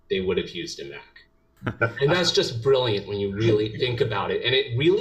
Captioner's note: laugh